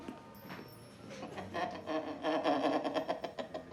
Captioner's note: laughing